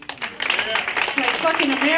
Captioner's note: applause